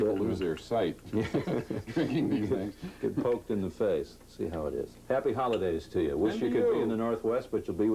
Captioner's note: laughter